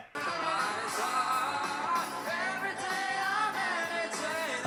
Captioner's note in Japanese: 笑い